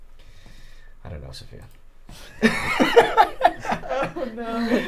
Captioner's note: laughing